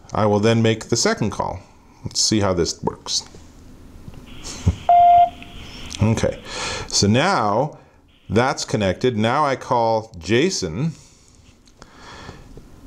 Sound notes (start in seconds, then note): 4.8 phone beeping